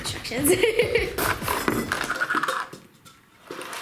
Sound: laughing

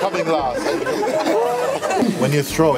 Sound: laughter

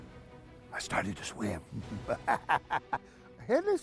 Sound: evil laughter

